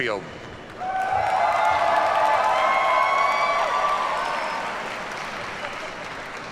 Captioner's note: audience cheers and applauds